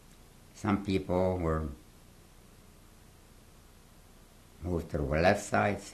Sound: pauses for 3 seconds

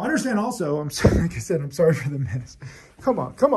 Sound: laughs

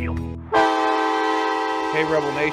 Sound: horn blaring

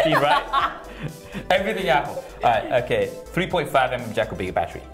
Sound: laughter

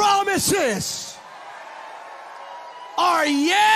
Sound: congregants cheering

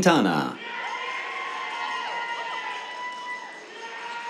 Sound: cheers

